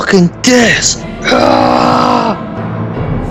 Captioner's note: battle cry!